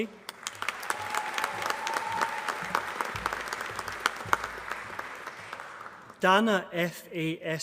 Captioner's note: applause